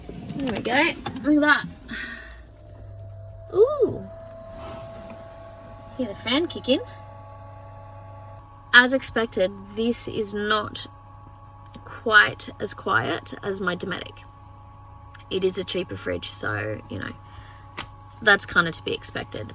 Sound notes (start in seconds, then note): 1.5 compressor starts humming quietly; 3.6 hum winds up slightly